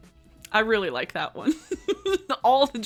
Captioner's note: laughing